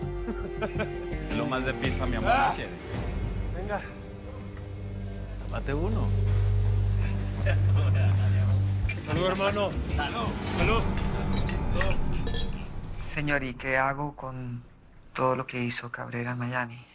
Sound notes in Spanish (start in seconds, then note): 0.2 Risas; 11.2 Sonido al chocar los vasos